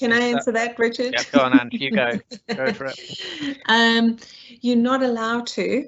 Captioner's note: laughs